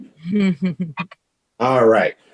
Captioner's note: chuckling